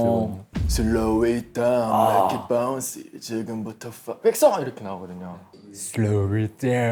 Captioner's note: impactful cave voice